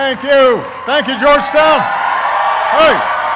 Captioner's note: applauding